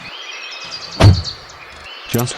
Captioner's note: car door closes